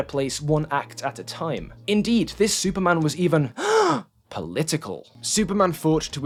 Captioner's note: gasp